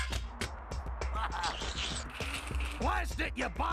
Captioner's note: chuckling